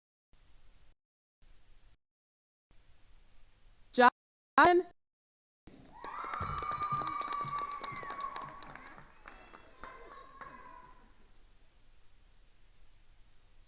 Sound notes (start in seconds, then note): 5.8 attendees cheering and applauding